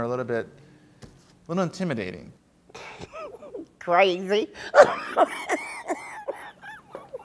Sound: laughter

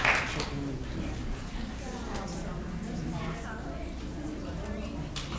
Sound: audience chattering faintly

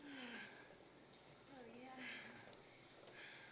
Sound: moaning

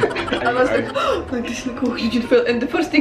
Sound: gasp

